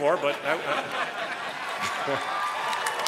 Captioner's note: applause